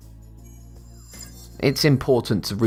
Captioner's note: futuristic ringing